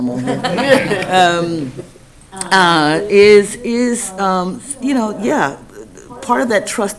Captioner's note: laughing